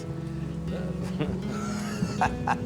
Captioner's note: laughs